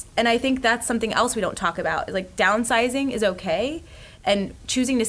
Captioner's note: none